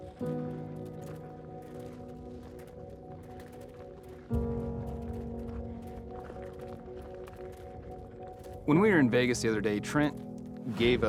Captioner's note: footsteps